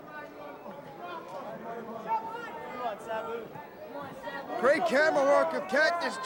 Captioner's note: crowd chatter